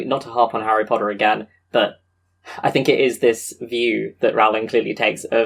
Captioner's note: sighs